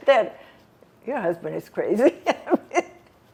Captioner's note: laughing